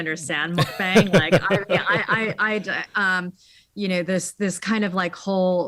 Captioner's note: laughing